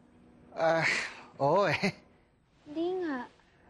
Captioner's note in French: chuckles awkwardly